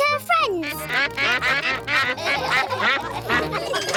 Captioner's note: quacks; all quack; laughter